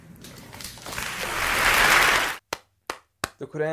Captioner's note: clap, Clap